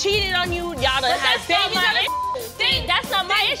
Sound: beep

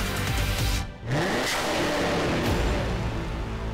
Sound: engine roars

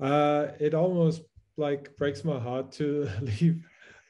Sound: chuckles

